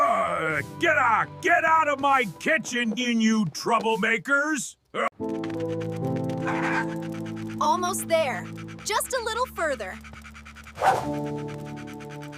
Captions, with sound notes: [screaming] [groaning] Get out of my kitchen, you troublemakers. Almost there. Just a little further.